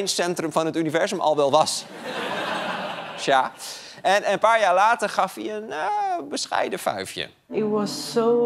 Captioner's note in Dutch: gelach